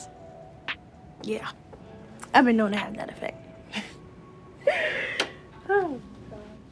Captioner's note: chuckles